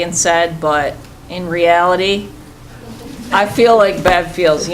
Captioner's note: chuckling